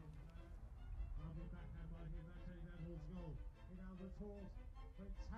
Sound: sports announcer speaking softly; voiceover

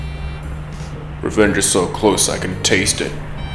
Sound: voiceover

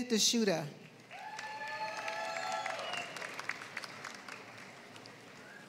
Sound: applause

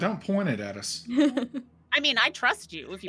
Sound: laughing

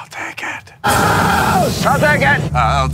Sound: screaming

